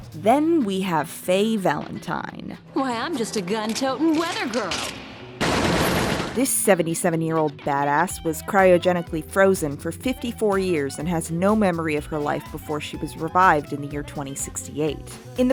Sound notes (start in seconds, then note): 5.4 gunshots